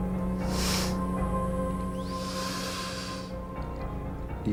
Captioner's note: inhales noisily